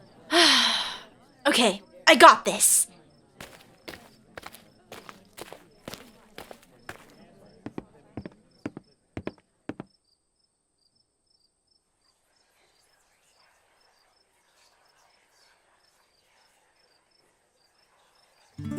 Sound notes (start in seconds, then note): 0.3 deep breath; 15.3 the crowd whispers